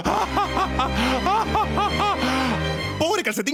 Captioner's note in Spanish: more evil laughter